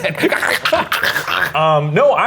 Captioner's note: mimics choking